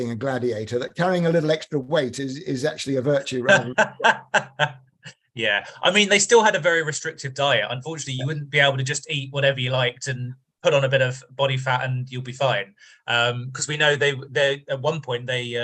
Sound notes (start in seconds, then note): 3.4 laughs